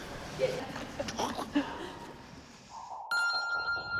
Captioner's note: laughs